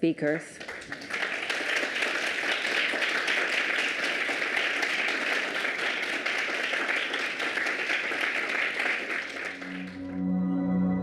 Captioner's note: applause